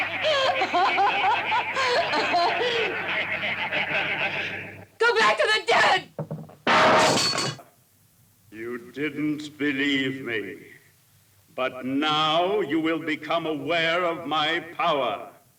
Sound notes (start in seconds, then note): 6.3 mirror shatters